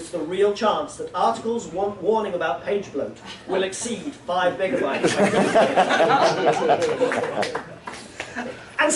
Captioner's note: laughter